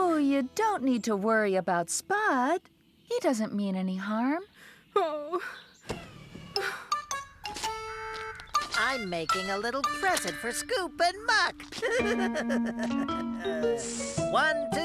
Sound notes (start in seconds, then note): 6.5 sighs; 11.6 laughing